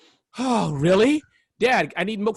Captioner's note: sighs